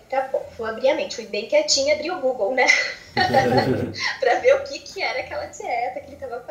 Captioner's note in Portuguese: risos